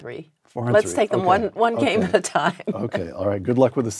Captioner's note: laugh